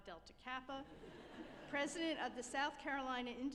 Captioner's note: group laughing